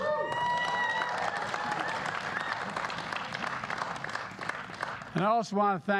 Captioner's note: applause